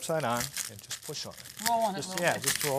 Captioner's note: garlic crunching